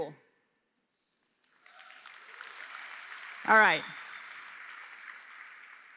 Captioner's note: applause